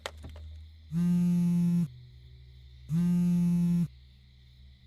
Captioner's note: phone buzzing